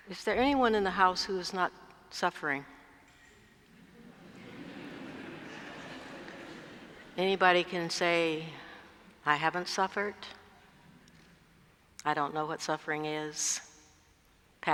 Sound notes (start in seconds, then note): 3.7 laugh